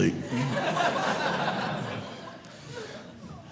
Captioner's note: audience laughing